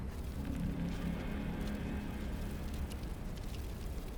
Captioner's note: tense music; spiders scuttling